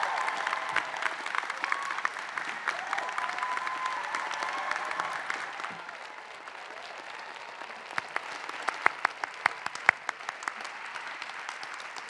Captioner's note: applause